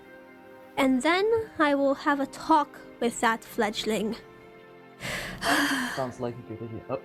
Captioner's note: sigh